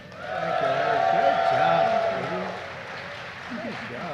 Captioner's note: applause